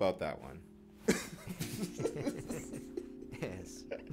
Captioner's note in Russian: смех